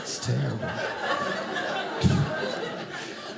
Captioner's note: audience laughing